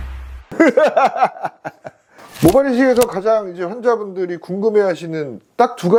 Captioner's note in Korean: 웃음